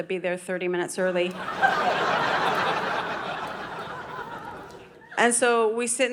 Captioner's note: audience laughing